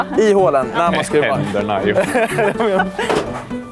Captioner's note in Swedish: skratt